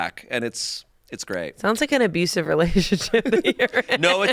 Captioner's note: laughs